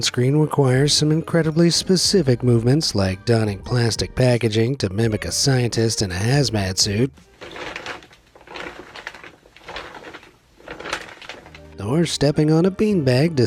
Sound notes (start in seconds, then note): 6.3 fabric crackles